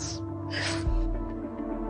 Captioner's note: sobs